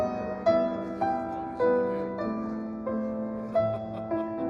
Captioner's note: people chattering